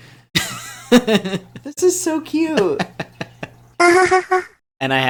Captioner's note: laugh